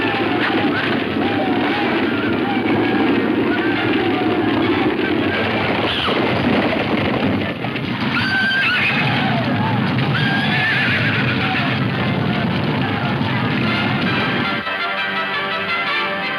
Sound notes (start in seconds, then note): 7.8 horses whinnying; 12.7 dramatic music